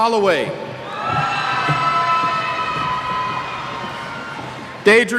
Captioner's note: cheers